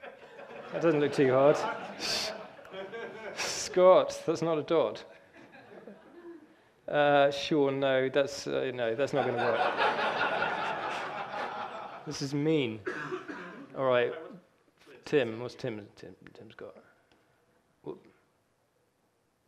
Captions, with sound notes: That doesn't look too hard. Scott, that's not a dot. Uh, sure no. No, that's not gonna work. (audience laughing) This is mean. Alright, Tim. What's Tim's got.